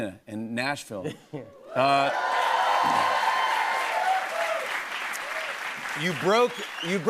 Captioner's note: cheers and applause